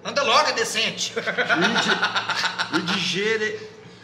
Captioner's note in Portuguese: Risadas